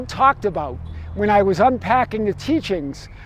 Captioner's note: horn honks